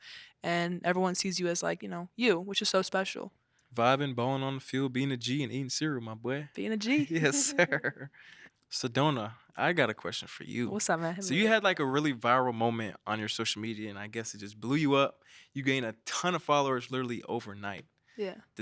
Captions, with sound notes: and everyone sees you as like you. Which is so special. - Vibin', ballin' on the field, bein' a G and eatin' cereal, my boy! - Bein' a Gee. - (chuckles) Yes sir. Sedona, I got a question for you. - What's up? - So you had like a really viral moment on your social media and I guess it just blew you up. You gained a ton of followers literally overnight.